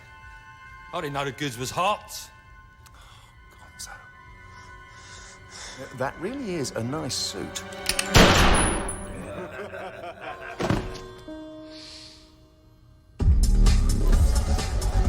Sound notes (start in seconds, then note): 8.1 gunshot; 9.0 laughter